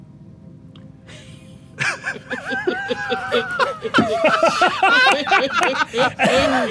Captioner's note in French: rires